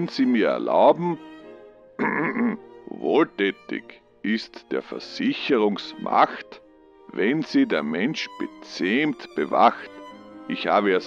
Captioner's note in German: räusper